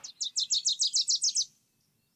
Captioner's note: bird singing